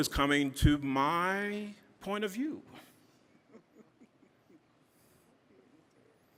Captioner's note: audience chuckling